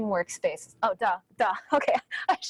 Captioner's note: chuckles